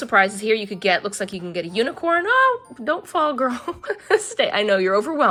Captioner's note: laughs